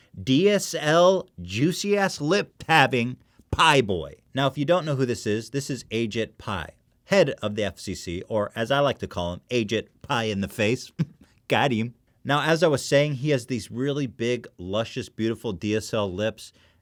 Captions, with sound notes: DSL juicy ass lip having PAI BOI Now if you don't know who this is this is Ajit Pai head of the FCC or as I like to call him Ajit Pai in the face *weird cough laugh thing* Got-em Now as I was saying, he has these really big luscious beautiful DSL lips